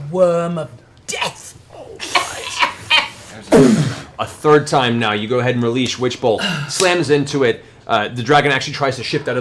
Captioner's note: boof